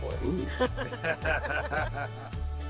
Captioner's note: laughing